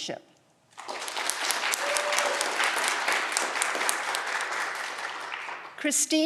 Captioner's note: audience clapping and cheering